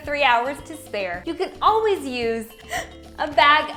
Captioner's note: gasps